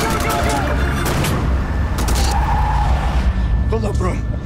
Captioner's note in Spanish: Ruido del vehículo